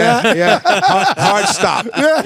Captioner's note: laughing